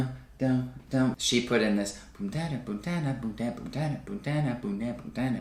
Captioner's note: vocalizes; vocalizes